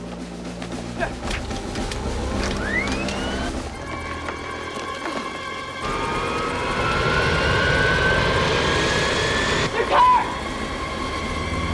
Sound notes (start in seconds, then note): 1.2 engine Starting